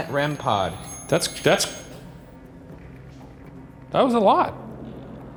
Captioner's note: device continues beeping